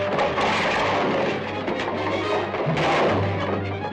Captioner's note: wood creaking; ax thudding